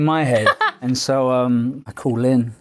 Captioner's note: laughing